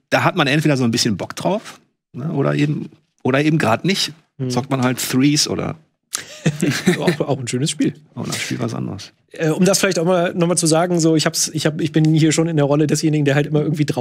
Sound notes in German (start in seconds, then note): 6.1 Gelächter